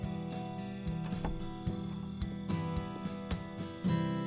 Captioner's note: door clicks